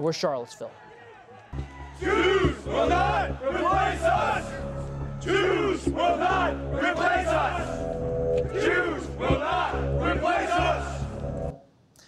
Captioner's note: chanting